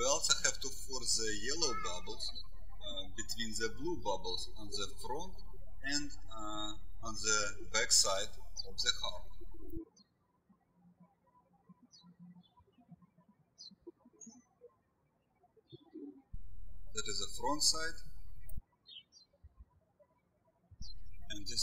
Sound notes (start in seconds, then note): 9.9 birds chirping